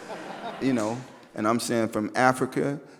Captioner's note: audience laughs